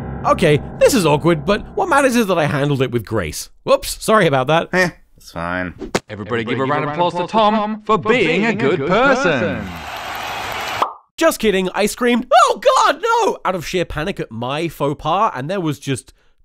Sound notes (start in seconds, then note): 0.0 mortifying piano note; 8.9 cheering